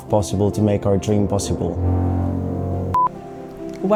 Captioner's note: construction noise